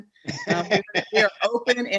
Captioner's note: Mayor Turner laughs